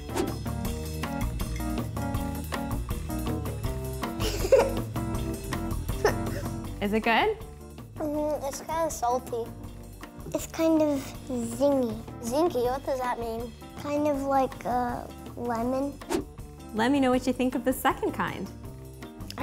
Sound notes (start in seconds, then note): 0.0 upbeat music; 4.2 giggling